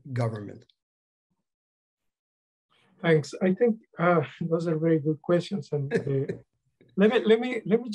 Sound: laughter

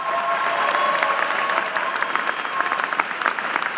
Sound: applause

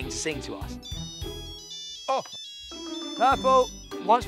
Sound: ringtones continue to play

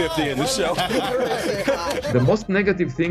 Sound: laughing

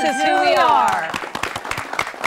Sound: applause

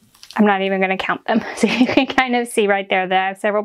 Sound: laughs

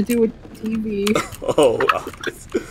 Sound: laughs

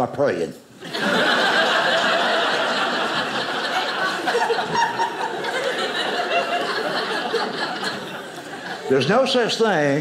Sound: audience laughing

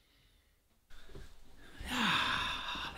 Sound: sigh

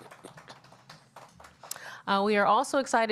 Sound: applause

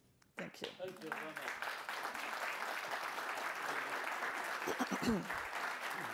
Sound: participants applaud

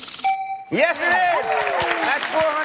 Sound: chime

